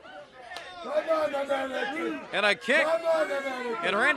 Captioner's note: crowd chatter